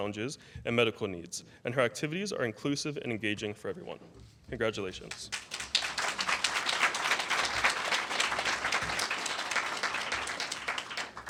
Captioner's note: applause